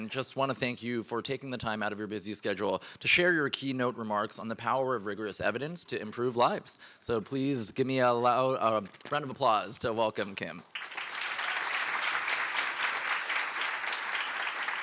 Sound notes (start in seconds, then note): 10.7 applause